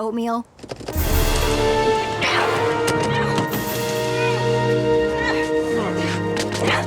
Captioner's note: grunting; tense music